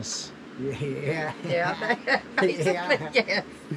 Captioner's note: laughing